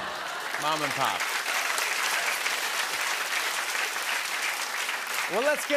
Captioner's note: applause